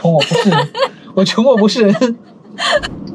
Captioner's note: ha ha ha